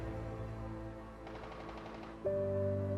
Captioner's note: guns firing; gentle music